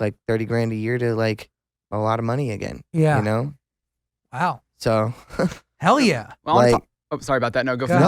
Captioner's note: laughs